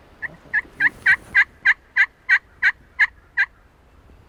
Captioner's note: squawking sounds